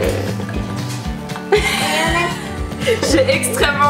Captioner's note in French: rires